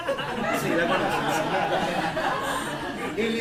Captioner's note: laughter